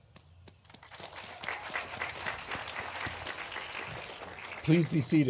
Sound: graduates applauding

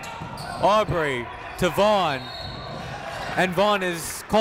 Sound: whistle blows

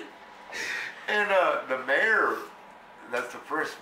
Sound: laughs

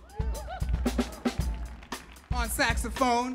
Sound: audience clapping and cheering

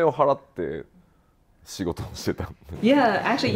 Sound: speaking japanese

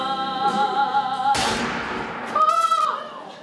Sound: gunshot

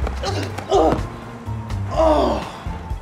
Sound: grunts

